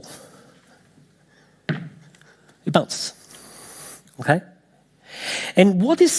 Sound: ball thumping

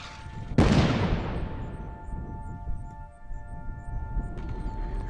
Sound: artillery booms; soft music; gunshots booming

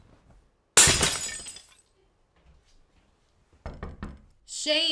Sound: glass shattering; door knocking

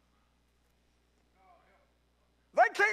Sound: congregant speaks faintly

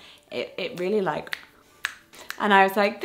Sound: fingers click

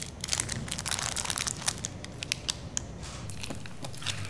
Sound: wrappers crinkling

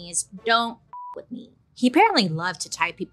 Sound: beeps

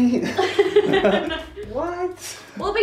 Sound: laughing

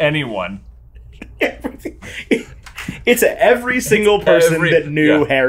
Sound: laughs

